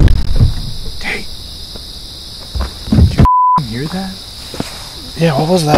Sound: indistinct thump; beep

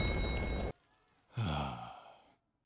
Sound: sigh

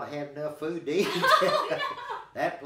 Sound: laughing

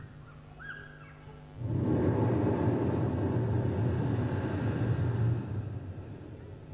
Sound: shri mataji blows into the microphone

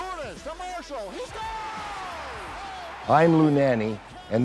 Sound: cheering

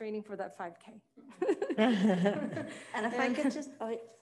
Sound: all laughing

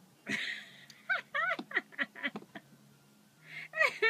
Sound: giggling/laughing

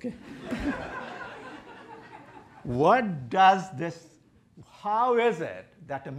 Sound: laughter

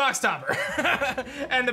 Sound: laughs

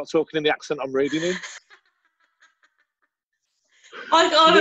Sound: laughter

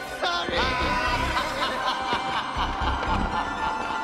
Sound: sinister laughter

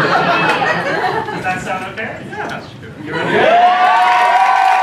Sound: applause

